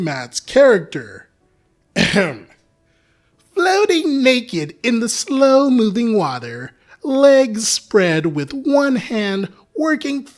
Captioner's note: ahem